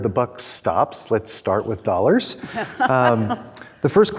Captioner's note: laughing